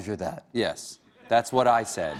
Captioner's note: laughter